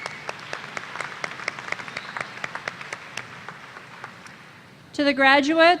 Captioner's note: applause